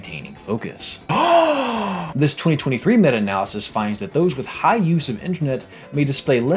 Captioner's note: me gasp on screen